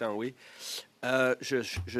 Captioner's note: speaking French